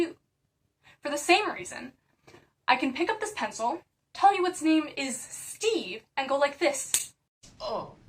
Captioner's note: pencil snaps